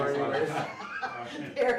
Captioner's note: laughs